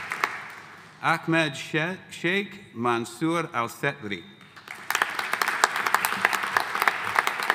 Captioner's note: audience applauding